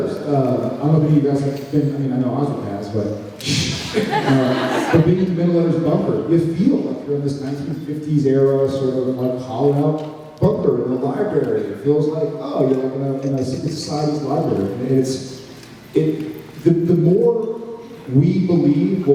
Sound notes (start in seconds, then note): 3.7 laughs